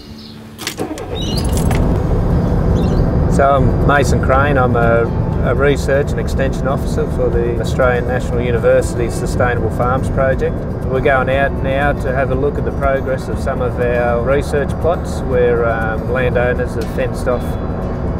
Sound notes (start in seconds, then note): 0.8 truck starting